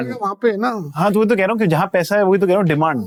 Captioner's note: conversing in Hindi